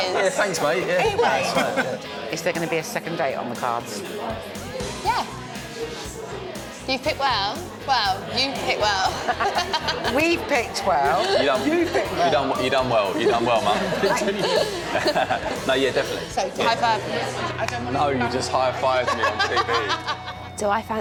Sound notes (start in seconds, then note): 9.1 laughs